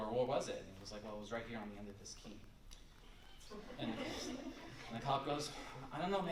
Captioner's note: laughter